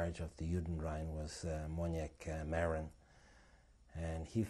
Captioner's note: non-english